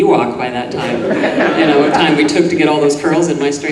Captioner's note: audience laughing